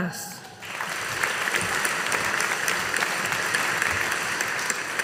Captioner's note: audience applauding